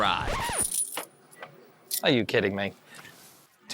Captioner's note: coins clinking